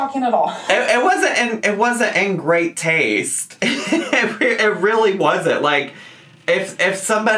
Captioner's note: laughs